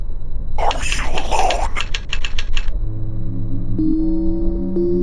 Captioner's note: voice From Computer